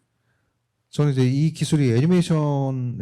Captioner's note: speaking korean